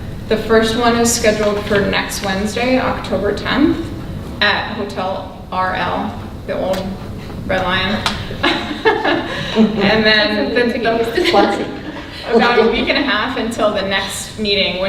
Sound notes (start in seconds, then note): 8.4 laughing drowns out speaker